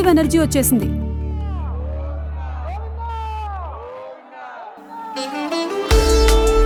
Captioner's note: chanting